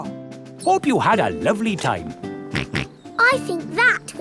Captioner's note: snorts